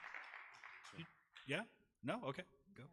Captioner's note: audience applause